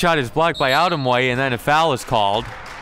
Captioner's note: referee blows whistle